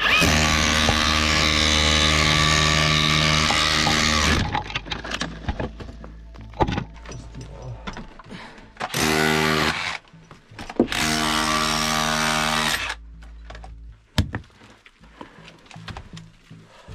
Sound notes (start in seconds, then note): 0.0 buzzing drilling; 9.2 buzzing drilling; 13.3 gentle, dramatic music